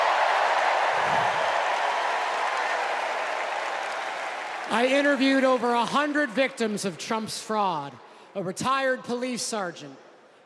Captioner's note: cheers and applause